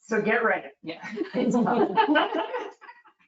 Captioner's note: people chuckle